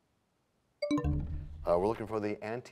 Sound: bell chimes, time expires

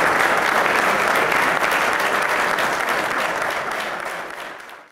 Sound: applause

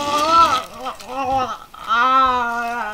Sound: muffled head crying

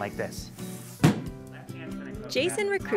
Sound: bang

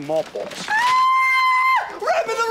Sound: screaming

